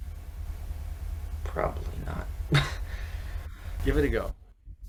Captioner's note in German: lacht